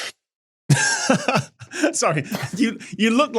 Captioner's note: laughs